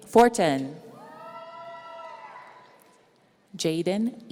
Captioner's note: audience cheering